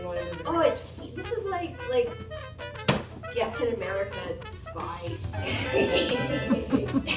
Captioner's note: laughter